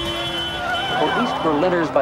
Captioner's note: car horn beeps